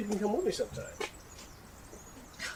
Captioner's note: scoff